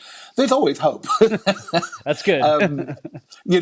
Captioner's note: laughing